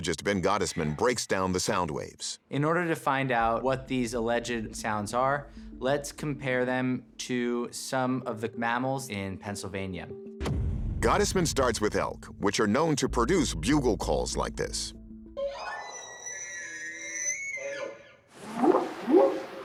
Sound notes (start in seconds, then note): 15.4 squealing; 18.4 whooping sound